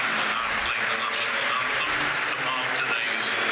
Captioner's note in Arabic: تصفيق